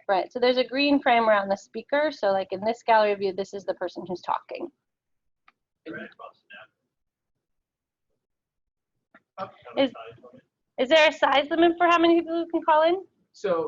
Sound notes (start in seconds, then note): 5.9 mic garbling